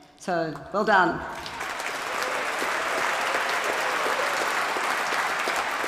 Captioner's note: applause